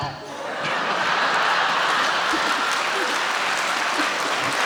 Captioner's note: audience applauding